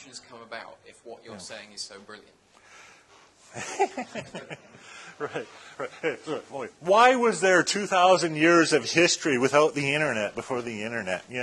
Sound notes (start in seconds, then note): 3.5 laughter